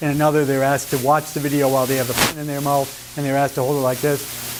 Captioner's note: audio glitch